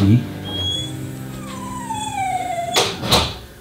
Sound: dog whining; door closes

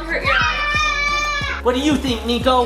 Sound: screaming

